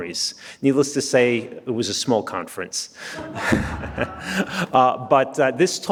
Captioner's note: laughs